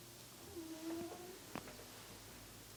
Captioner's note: cat snoring